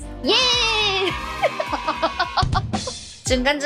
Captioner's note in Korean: 웃음소리